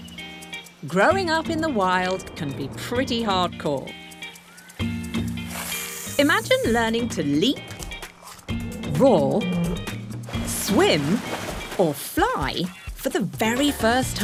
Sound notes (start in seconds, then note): 4.3 snake hisses